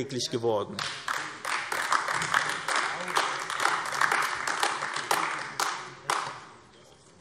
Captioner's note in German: Beifall